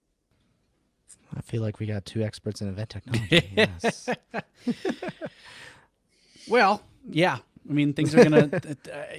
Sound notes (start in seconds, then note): 3.1 laughing